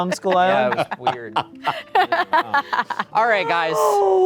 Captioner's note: laughing